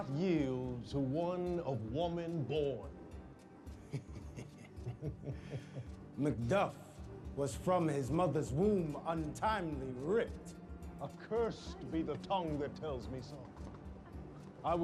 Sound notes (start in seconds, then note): 3.8 chuckling